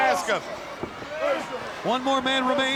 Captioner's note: wrestlers grunting